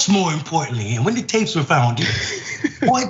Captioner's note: laugh